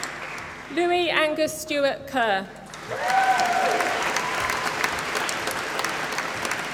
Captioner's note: applause